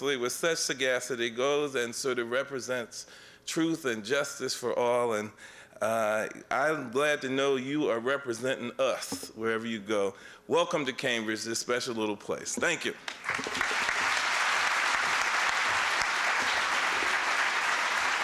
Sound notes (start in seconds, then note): 13.0 applause